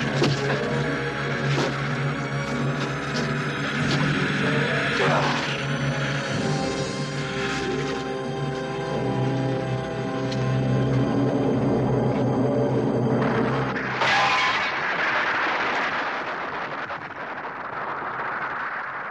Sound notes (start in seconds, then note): 4.9 yelling; 14.5 booming